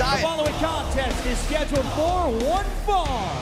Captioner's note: bell ringing